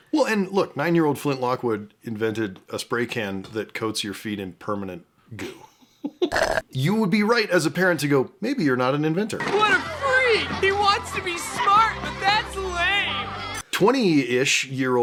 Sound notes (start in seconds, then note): 6.4 shlurp